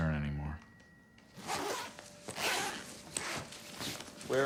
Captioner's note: zipping